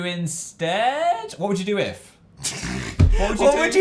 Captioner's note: laughs